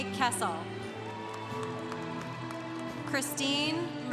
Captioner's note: congregation cheering